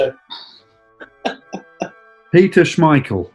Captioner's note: laughing